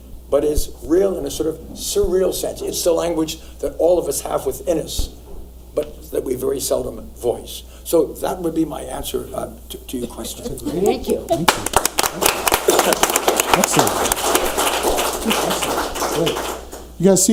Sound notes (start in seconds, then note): 11.4 audience applauds